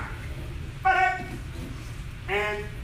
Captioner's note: enthusiastic shouting